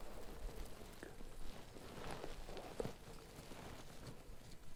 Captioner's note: whispers continue